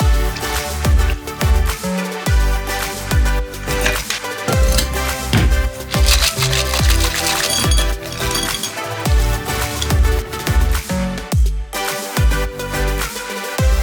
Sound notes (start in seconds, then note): 0.3 liquor splashing; 3.5 ice clanking; 3.8 palm thuds; 6.0 ice rattling; 7.5 ice clanking; 9.0 beverage splashing